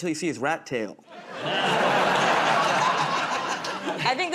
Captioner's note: laughter